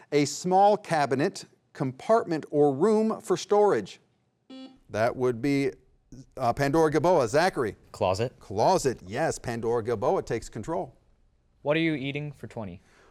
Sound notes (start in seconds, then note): 4.5 beep